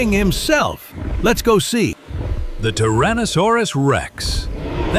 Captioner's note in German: Brüllen